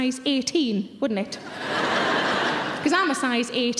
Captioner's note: audience laughing